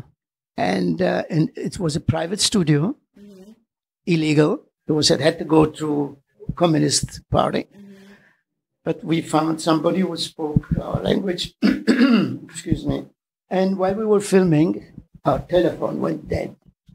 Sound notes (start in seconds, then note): 11.6 clears throat